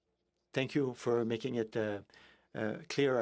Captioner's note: speaking in French